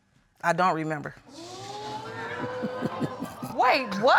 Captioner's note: audience exclaiming; chuckling